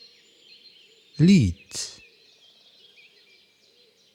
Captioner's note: german